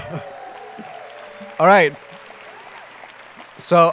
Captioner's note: applause and cheering